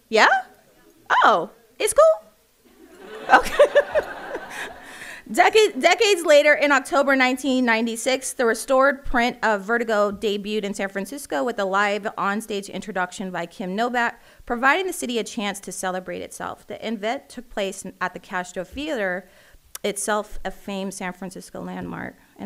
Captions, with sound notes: Yeah, oh, it's cool? (audience laughing) Decades Later in October, 1996, the restored print of "Vertigo" debuted in San Francisco with a live onstage introduction by Kim Novak, providing the city a chance to celebrate itself. The event took place at the Castro Theater, itself a famed San Francisco landmark.